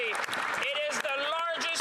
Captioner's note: cheering and Applause